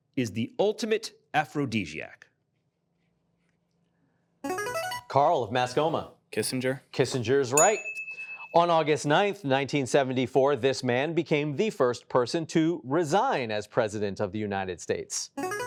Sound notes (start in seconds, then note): 4.5 buzzer chimes